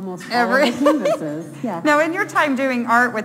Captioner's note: laughing